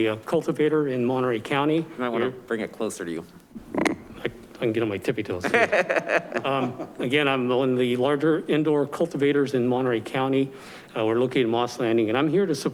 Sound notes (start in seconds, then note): 5.4 man chuckles